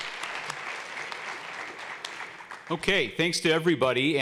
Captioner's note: applause